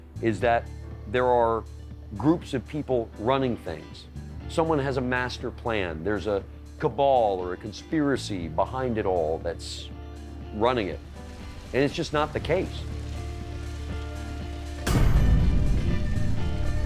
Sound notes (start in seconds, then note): 12.9 fire roaring